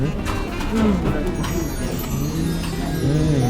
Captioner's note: sparkling noises